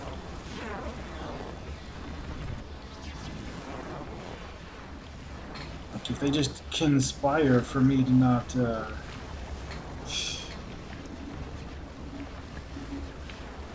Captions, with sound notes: Like, if they just conspire for me to not, uh... [laughs softly]